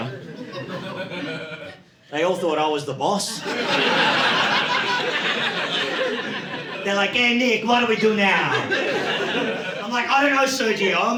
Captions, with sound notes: (audience laughing) they all thought I was the boss. (audience laughing) They're like, "Hey Nick, what do we do now?" I'm like, "I don't know Sergio.